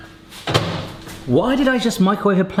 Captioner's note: microwave beeps; door shuts